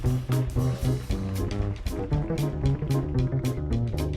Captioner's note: audience applauding